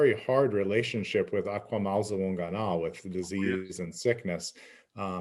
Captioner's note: speaking in Abenaki